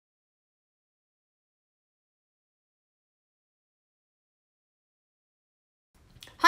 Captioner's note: silence